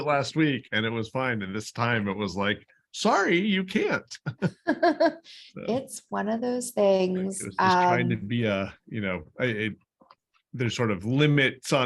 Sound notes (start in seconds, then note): 4.2 laughter